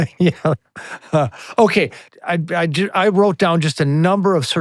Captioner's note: laughing